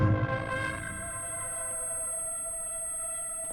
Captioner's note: high-pitched beeping